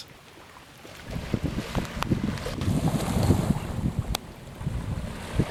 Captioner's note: splash, wind blowing